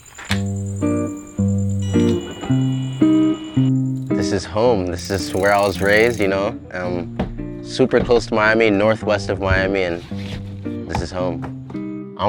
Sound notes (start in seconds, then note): 0.3 mellow music; 1.8 fishing pole whirring